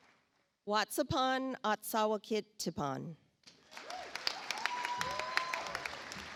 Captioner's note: audience applauds